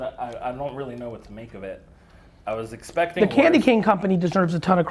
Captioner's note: none